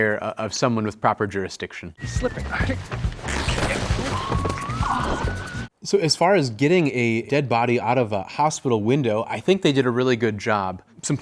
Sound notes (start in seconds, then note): 2.0 upbeat music; 2.8 sheet tearing